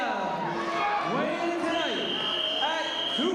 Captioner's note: whistling